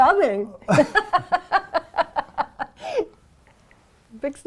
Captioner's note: laughter